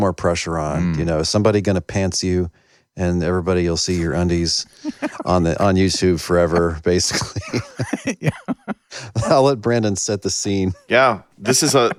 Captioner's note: laughter